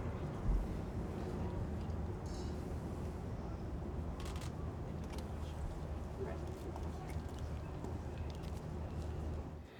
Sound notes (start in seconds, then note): 4.2 camera clicks